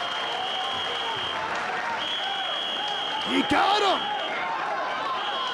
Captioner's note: applause